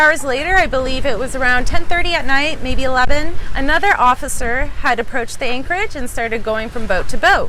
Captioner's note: police boat